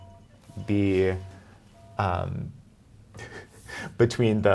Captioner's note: cell phone beeping; laughing